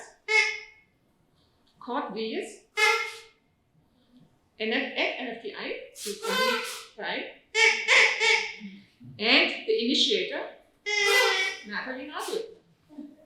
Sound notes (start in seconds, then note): 2.8 toots